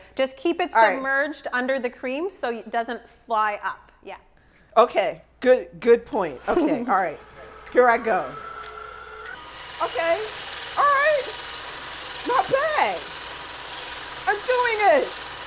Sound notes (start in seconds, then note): 8.6 mixer whirring